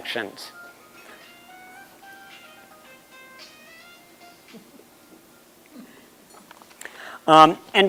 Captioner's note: phone ringing